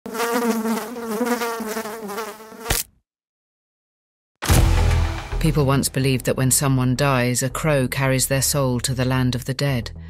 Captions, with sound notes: (fly buzzing) (fly splatting) (dark techno music) People once believed that when someone dies, a crow carries their soul to the land of the dead.